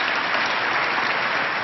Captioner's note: applause